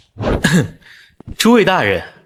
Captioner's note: cough